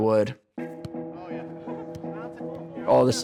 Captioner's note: soft tense music; people chattering